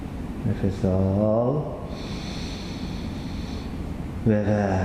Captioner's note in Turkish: Nefes sesi